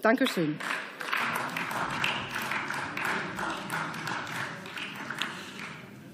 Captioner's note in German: Beifall